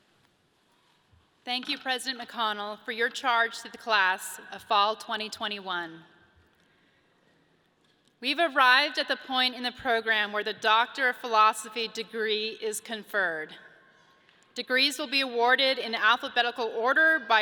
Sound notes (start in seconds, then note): none